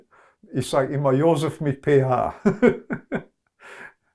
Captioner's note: laughing